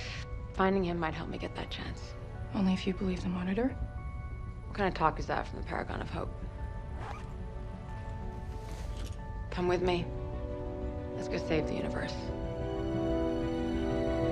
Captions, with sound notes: FINDING HIM MIGHT HELP ME GET THAT CHANCE. ONLY IF YOU BELIEVE THE MONITOR. WHAT KIND OF TALK IS THAT FROM THE PARAGON OF HOPE? [UNZIPS POCKET] COME WITH ME. LET'S GO SAVE THE UNIVERSE.